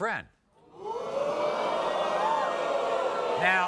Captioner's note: audience boos